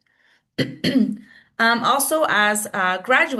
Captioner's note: clearing throat